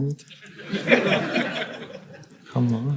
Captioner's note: audience laughing